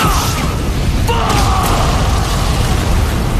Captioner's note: explode